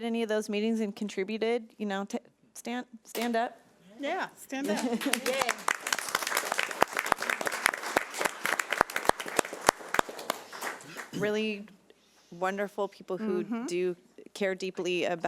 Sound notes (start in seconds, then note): 7.5 audience applauding